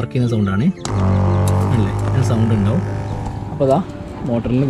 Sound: sound of motor

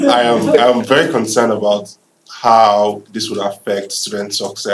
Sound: laughter

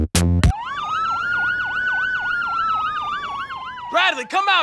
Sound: police sirens

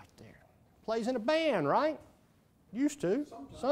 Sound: voiceover

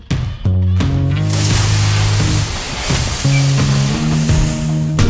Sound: sound of wood sliding

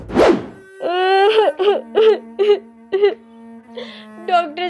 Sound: crying

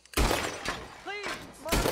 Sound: gun fires

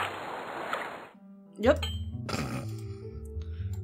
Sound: snorts

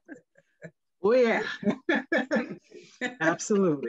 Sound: laughing; sighs

